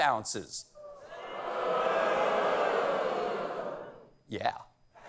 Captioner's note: audience booing; laughter